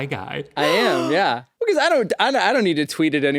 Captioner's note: gasps